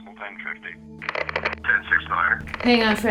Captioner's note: static crackles